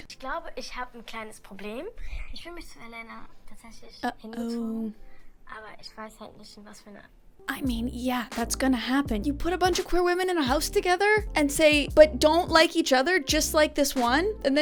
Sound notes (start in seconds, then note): 0.2 speaking in German; 5.5 speaking in German